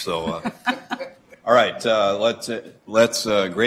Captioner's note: laughter